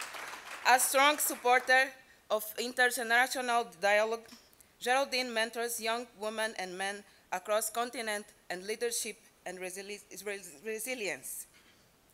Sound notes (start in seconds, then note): 0.0 applause